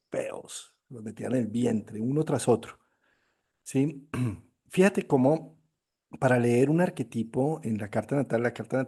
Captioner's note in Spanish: carraspeo